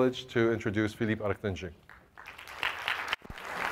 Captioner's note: applause